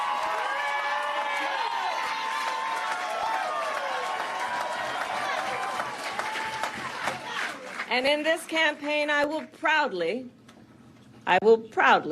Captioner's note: applause